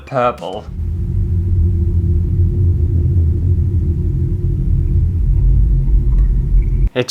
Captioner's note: spooky Sounds